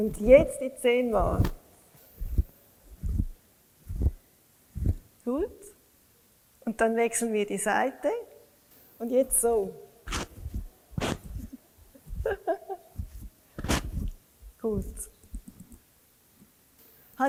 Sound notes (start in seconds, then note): 12.2 laughs